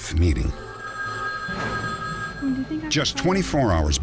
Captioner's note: phone ringing